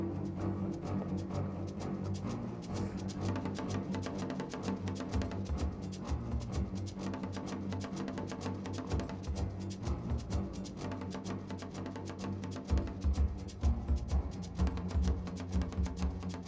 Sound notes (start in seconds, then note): none